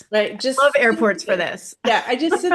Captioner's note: laughs